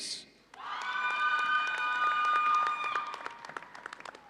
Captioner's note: audience cheering